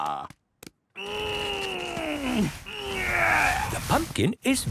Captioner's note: straining